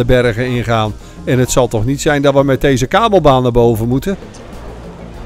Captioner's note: voiceover